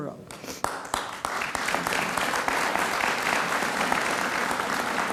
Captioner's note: audience applauds